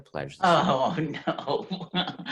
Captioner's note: laughing